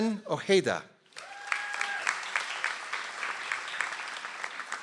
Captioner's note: audience applauds